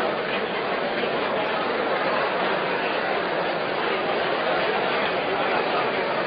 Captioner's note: random chatter